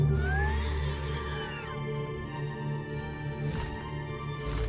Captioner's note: creature screeching